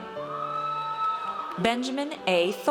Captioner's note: audience cheers